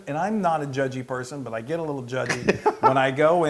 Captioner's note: laugh